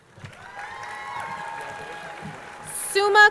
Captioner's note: crowd cheering